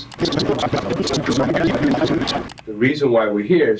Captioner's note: scene rattling